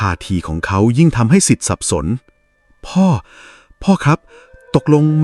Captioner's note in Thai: เสียงหายใจอ้าปากค้าง